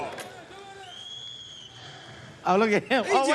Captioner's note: whistle blows